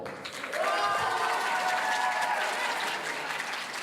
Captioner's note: audience cheering